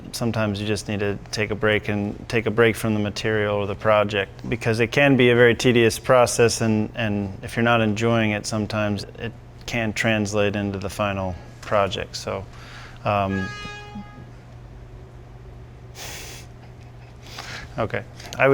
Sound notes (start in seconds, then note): 13.0 horn blowing; 16.4 laughs